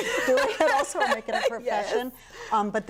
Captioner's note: laughter